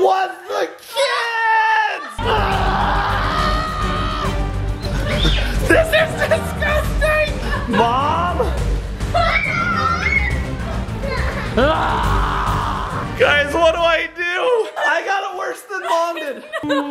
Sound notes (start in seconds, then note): 2.8 yelling; 11.1 yelling